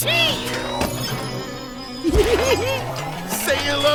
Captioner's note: giggling